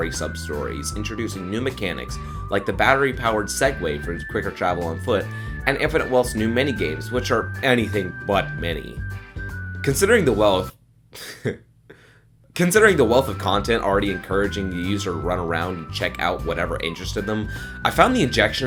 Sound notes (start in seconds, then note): 11.1 heh